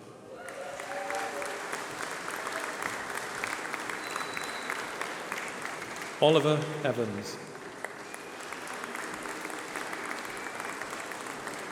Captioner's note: applause